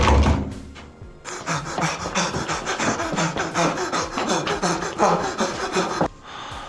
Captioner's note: heavy breathing and footfalls